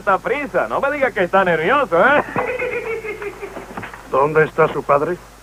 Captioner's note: giggling